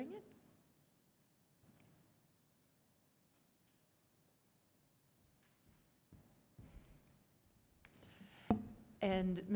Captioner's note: quiet pause